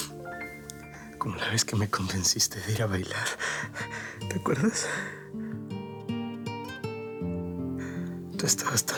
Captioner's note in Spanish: él solloza